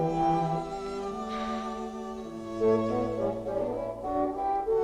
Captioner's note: Hundra sighs